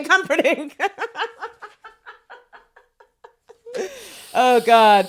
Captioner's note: both laughing